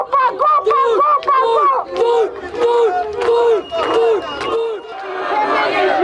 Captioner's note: crowd cheering shame, shame, shame